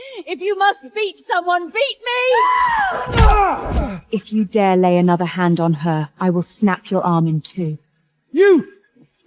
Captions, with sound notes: If you must beat someone,beat me! [SCREAMS] [GRUNTS] If you dare lay another hand on her, I will snap your arm in two. Yo'u!